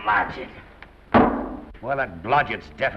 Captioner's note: feet thump on table